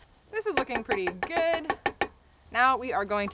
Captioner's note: tapping pan